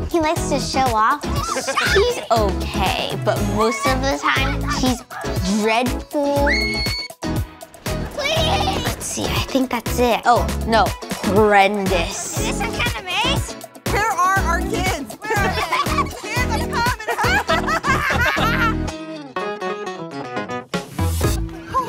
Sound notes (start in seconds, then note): 6.4 daughter screams; 15.2 kids giggling